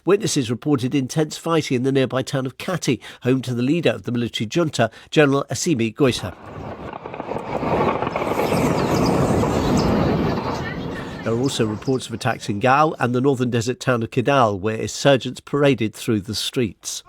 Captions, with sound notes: Witnesses reported intense fighting in the nearby town of Kati, home to the leader of the military junta, General Assimi Goïta. [explosion] There were also reports of attacks in Gao of Kidal, where insurgents paraded through the